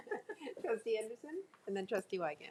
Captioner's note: chuckles